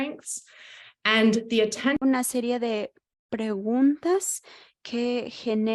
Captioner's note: speaking in Spanish